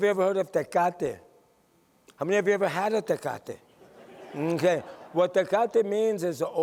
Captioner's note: laughter